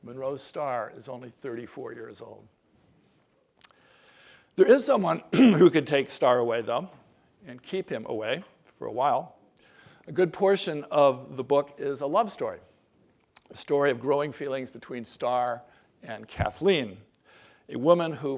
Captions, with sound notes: Monroe Stahr is only 34 years old. There is someone [COUGH] who could take Stahr away them and keep him away for a while. A good portion of the book is a love story. A story of growing feelings between Stahr and Kathleen,